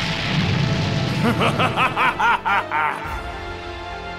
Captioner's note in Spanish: Risas